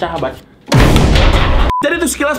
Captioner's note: explosion